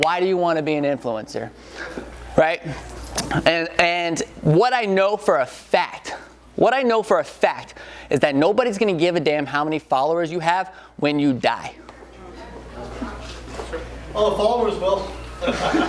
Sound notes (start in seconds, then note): 11.8 audience mumbling